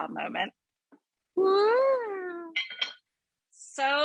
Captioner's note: lid clinks